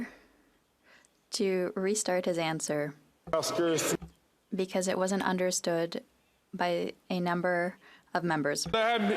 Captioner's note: speaking French